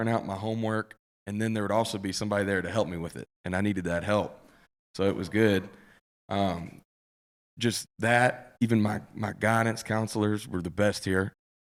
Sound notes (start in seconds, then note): none